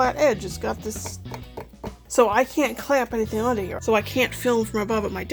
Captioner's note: tapping on edge